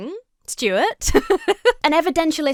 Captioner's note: laughs